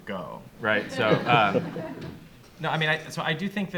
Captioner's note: audience laughs